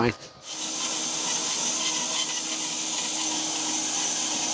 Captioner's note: saw buzzing